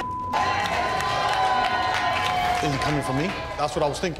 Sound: people jeering

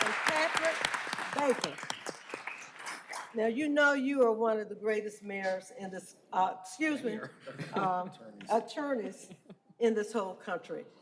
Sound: applause

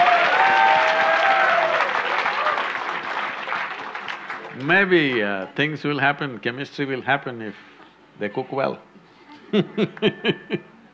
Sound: laughter/Applause; laughs

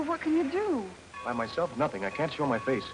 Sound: train bell rings

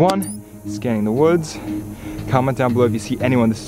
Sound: spy gear beeps

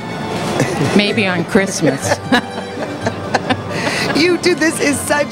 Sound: laughs

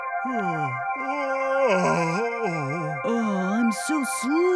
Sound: yawn

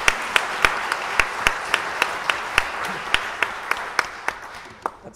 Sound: audience applauding

